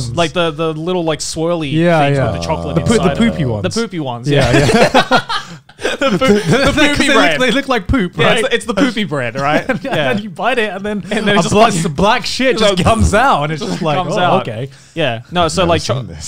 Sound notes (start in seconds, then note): 4.3 laughing